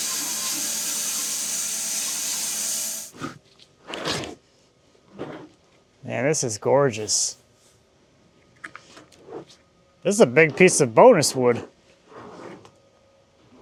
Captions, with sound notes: (board sliding) Man, this is gorgeous. This is a big piece of bonus wood.